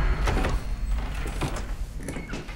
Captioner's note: door opens